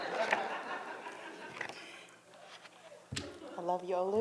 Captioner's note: all laughing